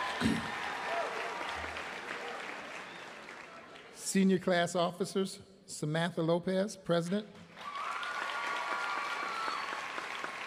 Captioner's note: applause